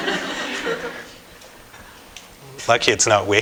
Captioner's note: laughter